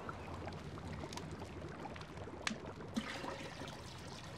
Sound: stew bubbles

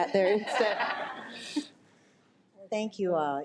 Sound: audience laughs

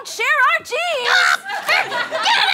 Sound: screams

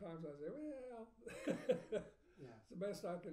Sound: laughing

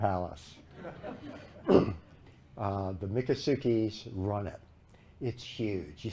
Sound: laughter

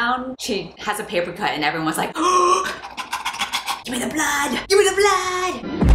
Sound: panting

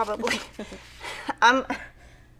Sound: laughing

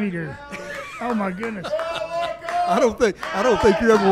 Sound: laughs

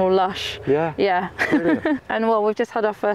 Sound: laughs

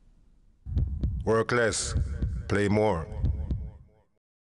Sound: heartbeat sounds

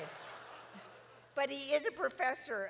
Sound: audience laughs

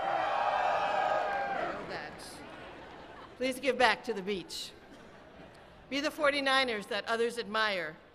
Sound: cheering

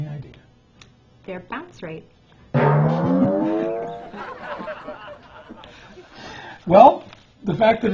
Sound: laughter

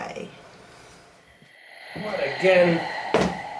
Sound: oxygen mask breathing sound

